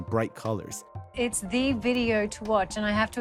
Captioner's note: soundbite of archived recording